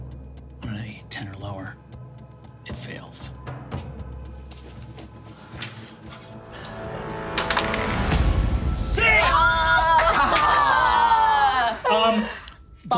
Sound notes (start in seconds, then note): 3.5 suspenseful music; 7.4 dice clatters